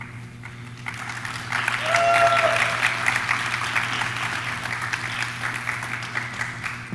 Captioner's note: audience clapping; audience cheering